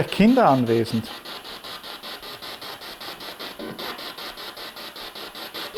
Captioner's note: noise of the spiritbox in the background